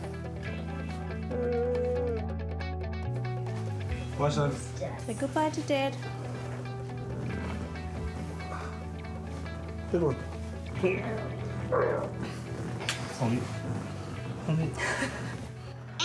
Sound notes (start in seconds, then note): 11.5 grunts; 14.5 chuckles